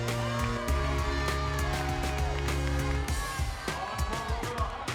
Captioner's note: audience cheering